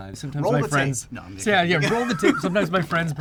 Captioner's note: laughs